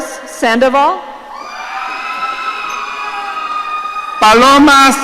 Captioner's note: audience cheering